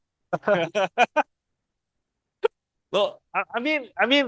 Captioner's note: laughters